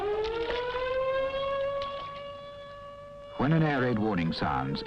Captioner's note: alarms blaring